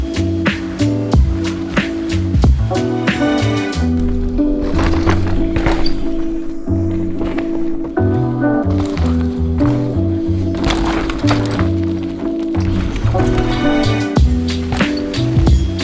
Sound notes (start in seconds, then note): 4.7 bike thudding; 8.9 bike thudding